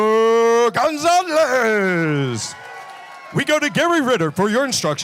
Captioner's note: applause